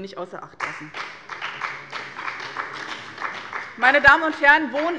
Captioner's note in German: Beifall bei dem BÜNDNIS 90/DIE GRÜNEN und der CDU